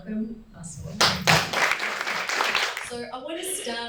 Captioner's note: crowd claps